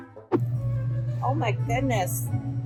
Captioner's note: whimsical music; whoosh; classical music